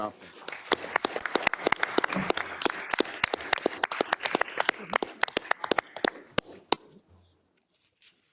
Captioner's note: applause